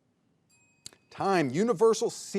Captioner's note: bell rings